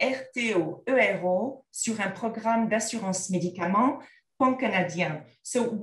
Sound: content in French

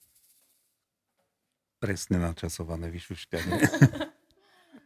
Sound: laughter

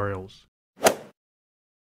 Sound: swoosh

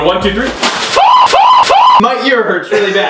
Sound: screaming

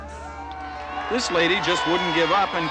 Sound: cheering

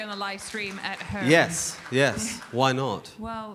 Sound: audience applauding

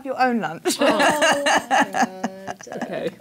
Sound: laughs; groans

